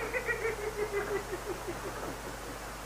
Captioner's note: Perkins giggling